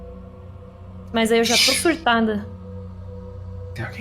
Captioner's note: shush